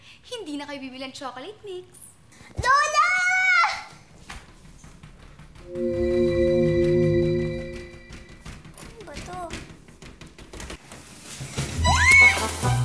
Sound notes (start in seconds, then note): 4.5 knocking on cabinet; 11.8 screams